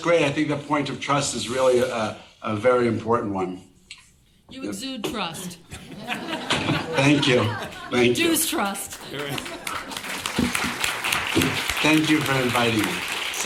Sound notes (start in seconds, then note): 5.6 audience laughing; 8.9 laughs; 9.3 audience applauding